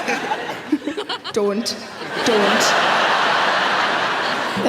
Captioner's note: audience laughing